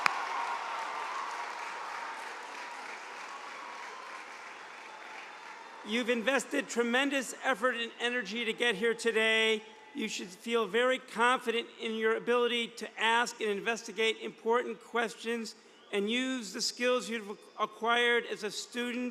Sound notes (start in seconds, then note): 0.0 cheers and applause